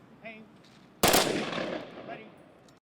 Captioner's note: gunfire